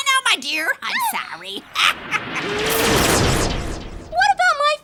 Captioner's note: Nellie yelping; magic crackling; laughs